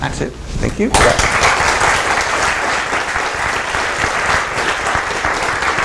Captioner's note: applause